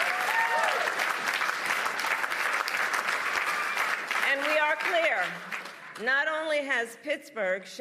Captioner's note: applause